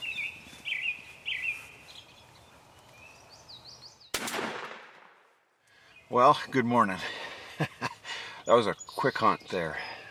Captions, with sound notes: (gun shot) - Well, good morning. That was a quick hunt there